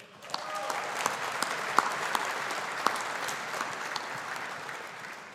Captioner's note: audience applauding